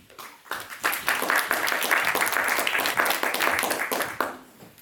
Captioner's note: audience clapping